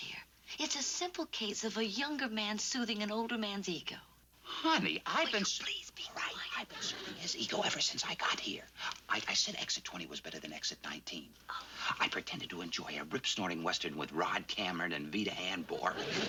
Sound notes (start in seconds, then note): 3.8 raises voice; 5.4 whispering